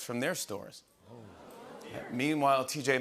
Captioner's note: audience oohs